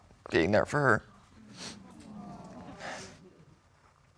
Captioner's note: audience murmuring sympathetically